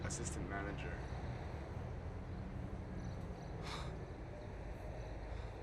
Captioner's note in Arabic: تنهدات